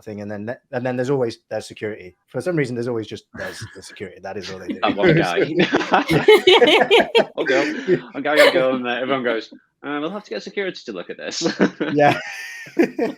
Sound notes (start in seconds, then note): 6.1 all laugh; 11.4 laughs